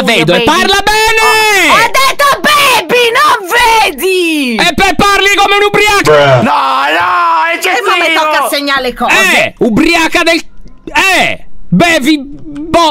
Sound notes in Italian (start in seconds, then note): 1.1 urla